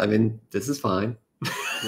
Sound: laughs

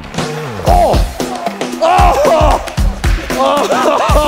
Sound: groaning

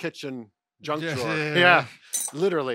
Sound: laughs

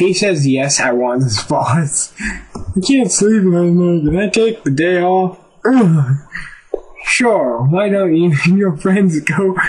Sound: fake yawn

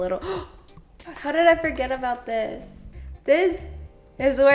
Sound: gasps

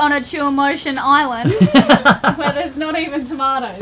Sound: laughs loudly

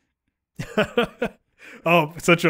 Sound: laughing

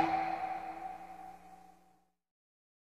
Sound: drip plops

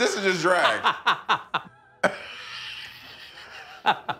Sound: laughing

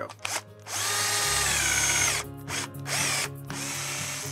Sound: drill whirs

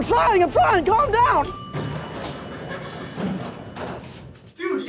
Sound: elevator ding

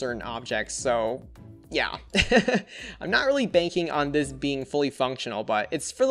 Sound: laughs

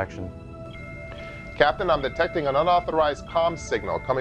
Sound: alarm sound

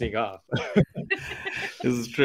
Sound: laughs

